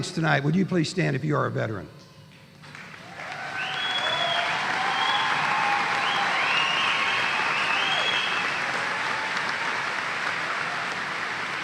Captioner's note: applause